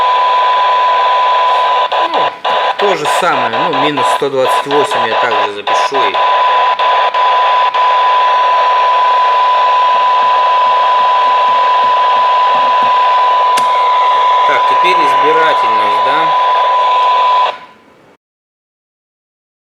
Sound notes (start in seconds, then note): 6.1 applause